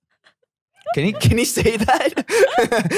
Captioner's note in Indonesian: tertawa